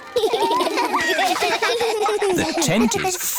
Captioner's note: laughter